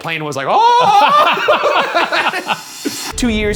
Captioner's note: laughing